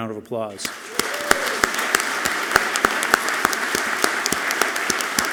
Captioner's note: audience clapping loudly